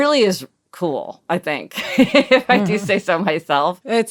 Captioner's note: laughing